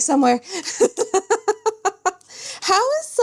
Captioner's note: laughs